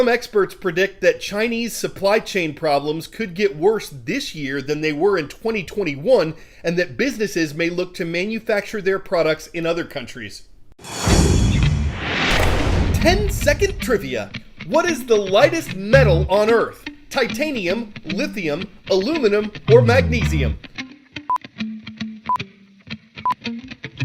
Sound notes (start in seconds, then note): 11.4 voice-over